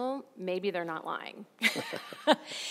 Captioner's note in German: lacht